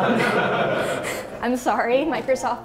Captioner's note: laughs